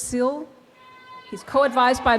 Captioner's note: student cheers